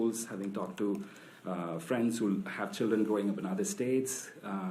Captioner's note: none